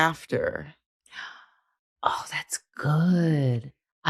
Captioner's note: gasps